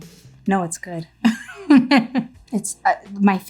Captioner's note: chuckles